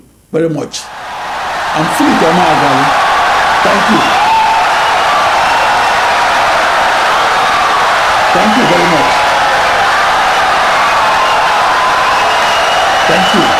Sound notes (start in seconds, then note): 2.8 wild applause and cheering for 17 seconds